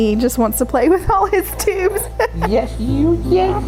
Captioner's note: laughs